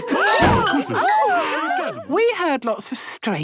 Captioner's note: all gasping